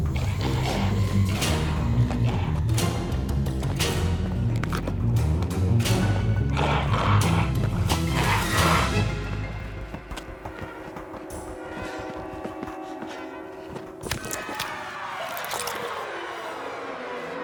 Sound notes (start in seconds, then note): 0.0 figure growling; 5.8 dramatic music continues; 14.5 dramatic music